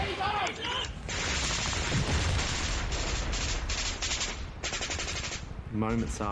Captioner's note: sounds of battle